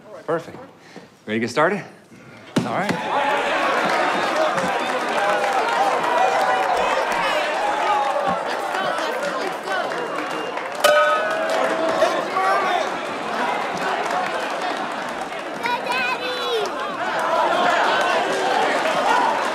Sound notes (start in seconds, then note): 2.7 crowd cheering; 17.2 cheering